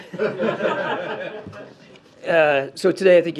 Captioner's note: laughter